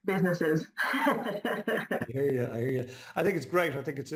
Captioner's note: laughs